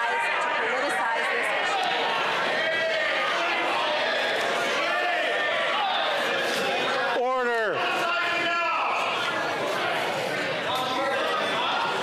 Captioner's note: yelling